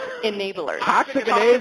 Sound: laugh

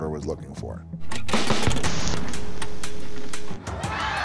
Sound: static buzzes; crowd cheering

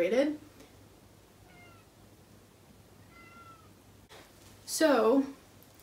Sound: cat meowing

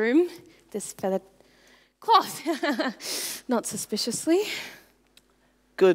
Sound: laughs

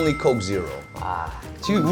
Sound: exclaiming

